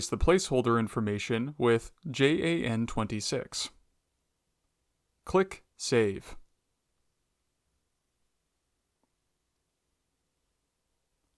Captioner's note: pause